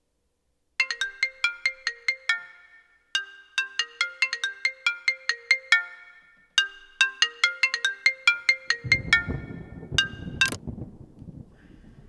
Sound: cell Phone Ringing

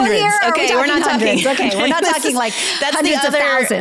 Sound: laughs

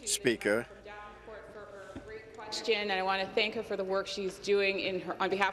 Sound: speaking in French

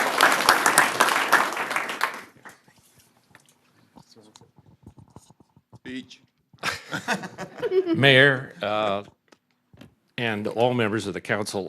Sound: applause; laughter

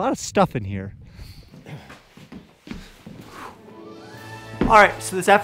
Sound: footsteps thudding; upbeat adventurous music

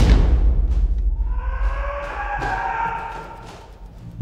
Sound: yelling

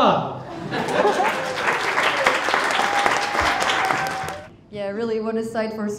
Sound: crowd cheering; crowd applauding

